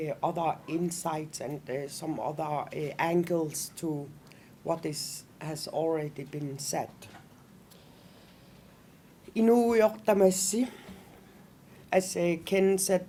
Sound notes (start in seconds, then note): 9.3 non-english speech